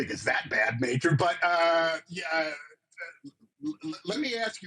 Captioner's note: stammering